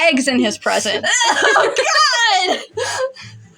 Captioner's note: laugh